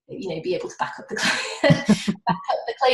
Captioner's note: laughing